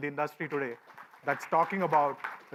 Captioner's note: light applause